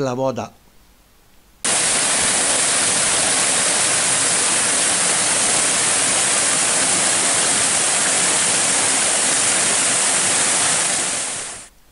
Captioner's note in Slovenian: šum vode